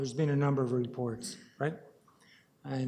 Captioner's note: audio drop